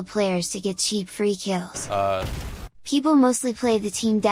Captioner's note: boom